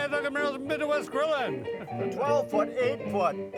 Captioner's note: chuckling